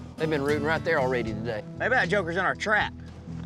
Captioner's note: none